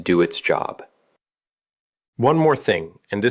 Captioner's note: pause